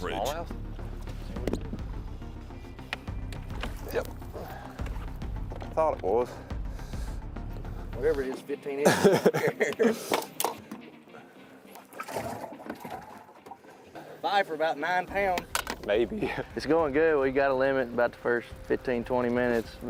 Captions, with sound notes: - Small mouth? Yep, thought it was. - Whatever it is, fifteen inches. (laughing) - Five for about nine pounds. - Maybe (chuckling) It's going good.